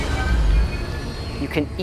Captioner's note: spacecraft rumbling